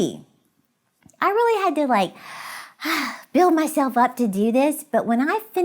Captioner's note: exhales